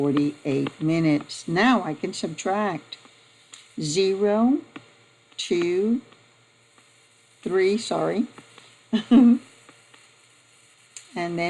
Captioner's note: giggling